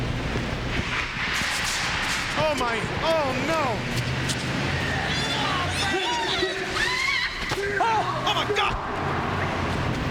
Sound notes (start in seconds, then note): 6.7 Kimberly screaming